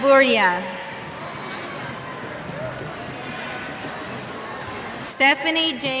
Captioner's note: cheers